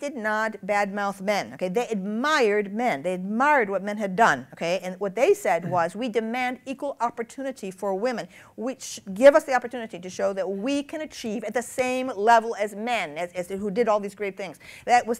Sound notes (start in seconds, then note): none